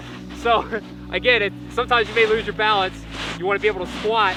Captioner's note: laughs